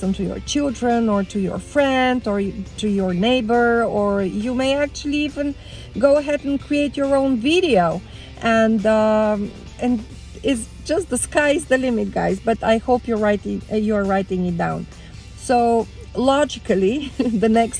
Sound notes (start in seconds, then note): 17.0 laughs